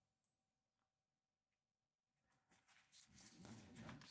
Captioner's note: silence